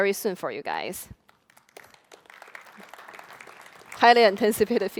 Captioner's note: applause